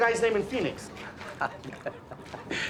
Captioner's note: chuckles